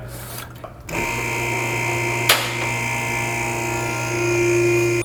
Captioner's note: lift buzzing